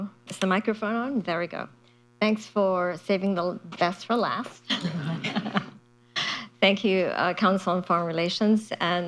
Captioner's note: laughter